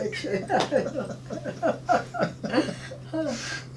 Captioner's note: laughing